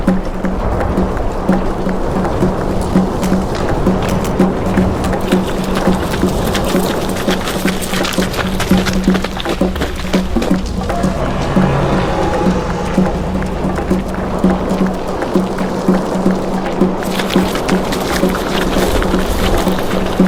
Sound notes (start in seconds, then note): 0.2 volcano rumbling; 5.8 gravel crunching; 10.5 dinosaur growling; 14.5 dramatic music continues